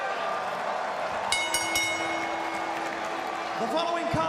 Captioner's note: bell ringing